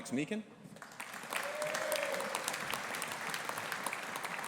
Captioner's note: audience applauding